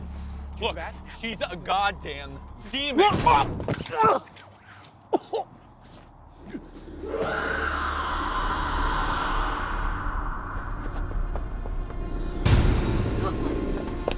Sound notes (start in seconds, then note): 5.0 coughs, sputters; 7.0 demon screeches; 11.0 tense violin music